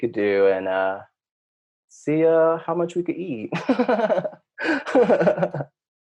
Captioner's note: laughing